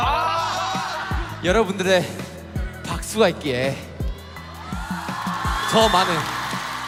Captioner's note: Bangtan laugh & cringe; ARMYs cheer and clap